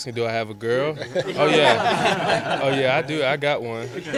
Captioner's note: laughter